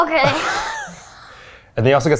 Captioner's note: laughs